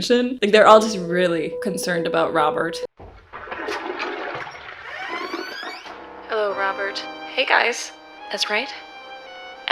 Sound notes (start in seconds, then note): 3.0 toilet flushing